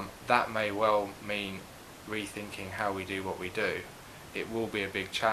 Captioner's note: none